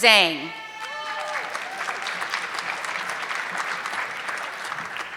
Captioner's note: audience clapping